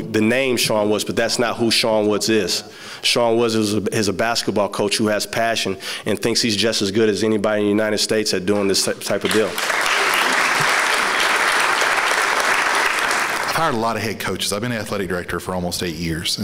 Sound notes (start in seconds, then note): 8.8 applausse